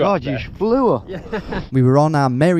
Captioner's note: laughs